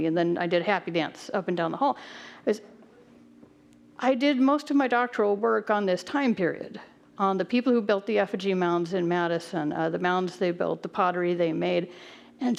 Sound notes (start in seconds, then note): none